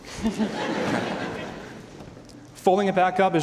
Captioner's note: laughter